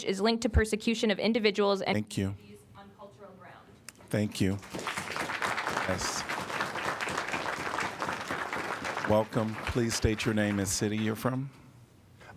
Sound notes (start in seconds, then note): 4.4 applause